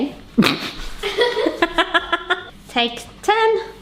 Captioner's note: both laugh